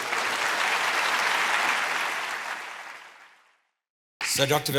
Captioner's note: audience applauding